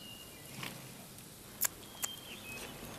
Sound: birds chirping; munching

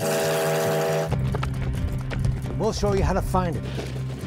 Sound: train whistle blowing

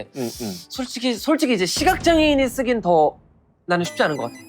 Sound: heavy sound effect

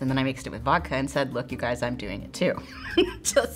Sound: chuckles

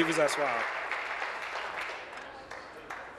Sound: applause

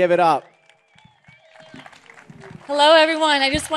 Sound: applause

